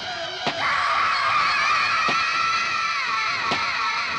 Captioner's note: screaming